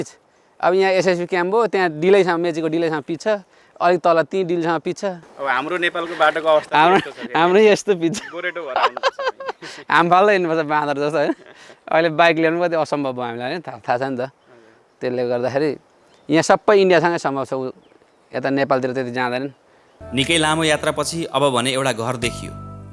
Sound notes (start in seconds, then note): 8.1 laughter